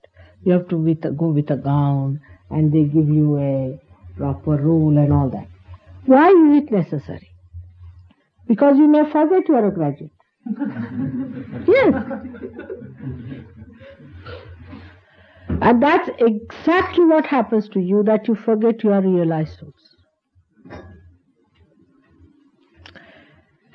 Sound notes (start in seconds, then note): 10.4 laughter